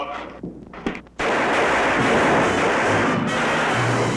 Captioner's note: weapons firing